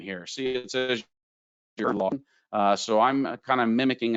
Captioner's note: audio warbles